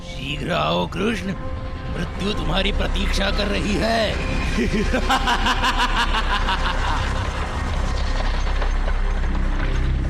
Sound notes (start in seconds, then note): 4.5 laughs